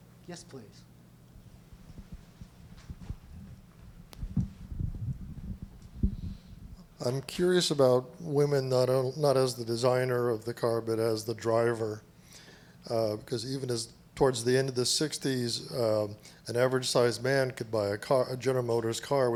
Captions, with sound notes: Yes, please. - [Voiceover] I'm curious about women not as the designer of the car, but as the driver because even towards the end of the 60's an average sized man could buy a General Motors car